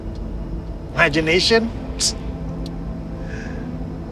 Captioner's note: scoffs